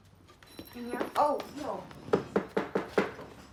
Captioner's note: knocking